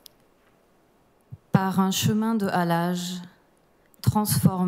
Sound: speaking french

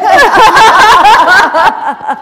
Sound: laughter

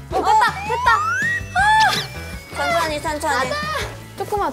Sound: hehe

